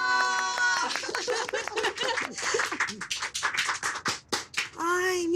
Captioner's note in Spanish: A coro; Aplausos; Risas